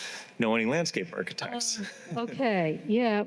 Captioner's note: laughs